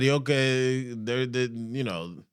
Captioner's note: speaking Spanish